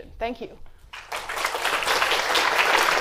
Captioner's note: applause